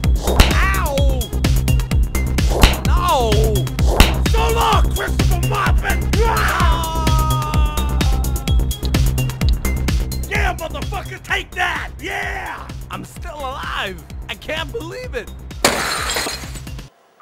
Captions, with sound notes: Ow! No! So long Christopher Mopin! (yelling) Yeah, mother fucker, take that! I'm still alive! I can't believe it! (TV crashing)